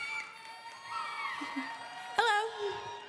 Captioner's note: applause